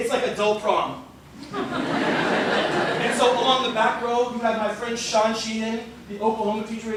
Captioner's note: laughter